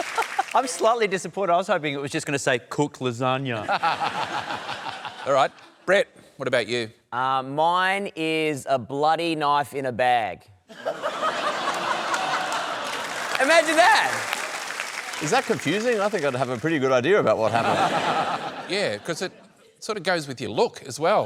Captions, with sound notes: I'm slightly disappointed. I was hoping it was just going to say "Cook lasagne". (LAUGHS) Alright. Brett, what about you? Mine is a bloody knife in a bag. (LAUGHTER) Imagine that! Is that confusing? I think I'd have a pretty good idea about what happened. Yeah, 'cause it sort of goes with your look as well.